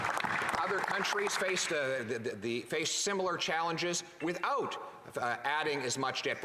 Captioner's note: some Applause